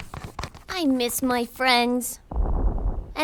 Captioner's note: loud rumbling coming from above